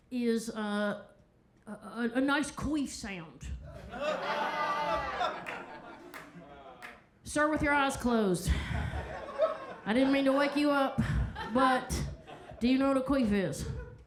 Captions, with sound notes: is a nice queef sound. (crowd laughs) Sir, with your eyes closed, I didn't mean to wake you up, but do you know what a queef is?